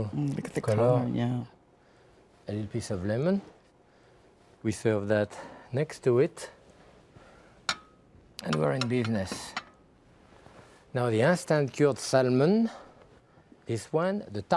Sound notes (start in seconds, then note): 8.4 plates clattering